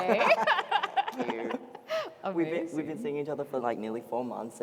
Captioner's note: laughter